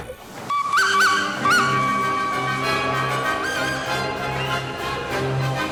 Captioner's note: whistle